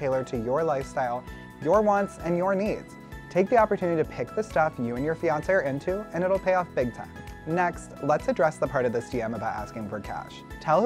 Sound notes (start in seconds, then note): none